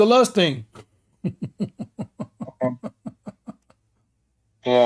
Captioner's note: Ketawa